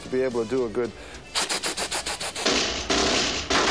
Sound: imitate gun sounds

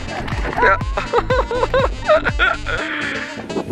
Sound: laughter

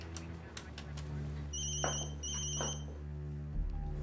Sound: phone rings

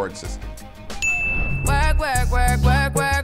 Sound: dinging

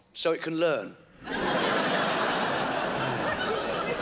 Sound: crowd laughs

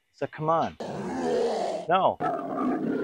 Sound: disobedient roar; rebellious roar

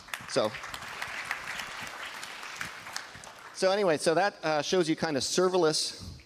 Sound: applause

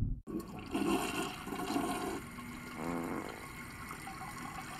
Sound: toilet flushes

